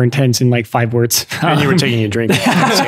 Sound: friars laughing

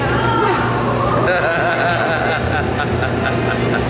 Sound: laughs

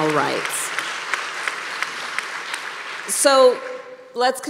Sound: applause

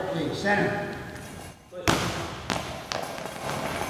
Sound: ball bouncing loudly

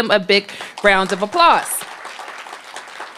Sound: applause

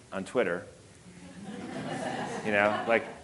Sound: audience laughing

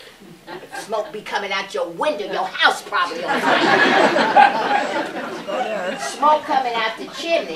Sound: laughter

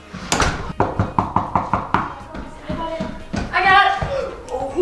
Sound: knocking

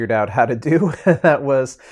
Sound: laughing

